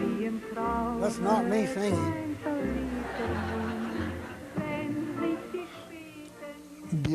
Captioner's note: laughter